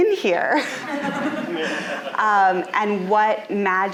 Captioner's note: audience laughing